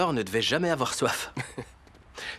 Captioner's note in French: Colin glousse